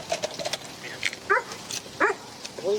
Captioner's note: dog barks